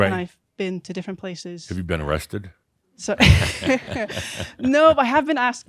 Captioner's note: they chuckle